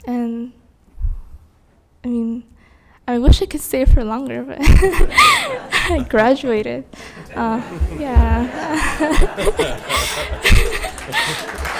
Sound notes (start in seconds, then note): 4.6 laughing; 6.9 spectators laughing; 9.8 laughing; 11.6 all applauding